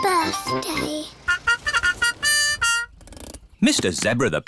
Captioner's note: horn tooting